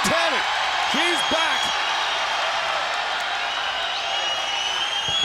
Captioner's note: crowd cheering